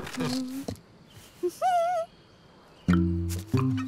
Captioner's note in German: Fröhliches Summen